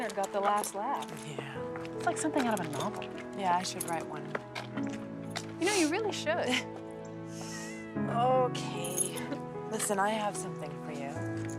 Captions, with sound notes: Looks like Leonard got the last laugh. - Yeah. - It's like something out of a novel. - Yeah, I should write one. - Ya know, you really should. (cat meows) - Okay. Listen, I have something for you.